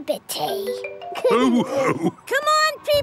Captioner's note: all laughing